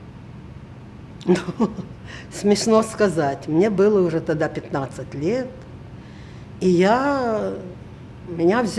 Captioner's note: laughing